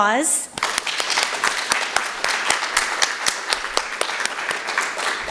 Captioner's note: applause